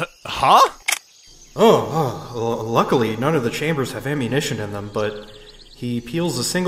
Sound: chokes; gun cocking

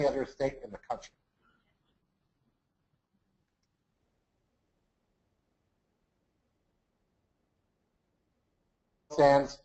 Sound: audio interruption - no audio in this segment

